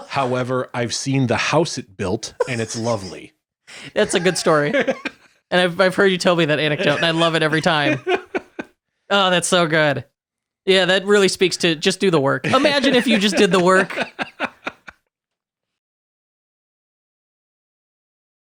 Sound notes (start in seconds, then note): 0.0 laughing; 3.8 laughing; 14.1 laughing